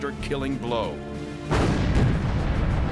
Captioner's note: explosion